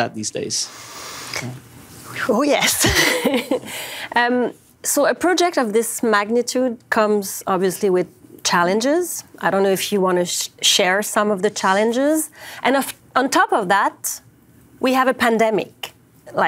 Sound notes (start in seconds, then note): 2.6 giggles